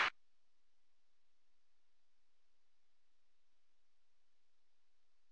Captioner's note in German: Beifall bei der FDP